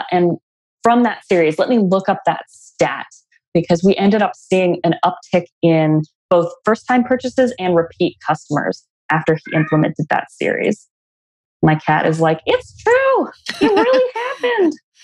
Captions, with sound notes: And from that series, let me look up that stat because we ended up seeing an uptick in both first-time purchases and repeat customers after we implemented that series. (Cat meows in the background) My cat is like, "It's true. It really happened."